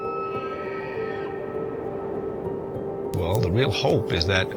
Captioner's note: animal shrieks